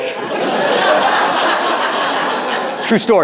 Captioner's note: audience laughing